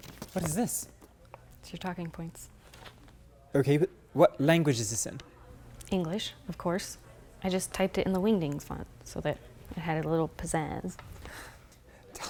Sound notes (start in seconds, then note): none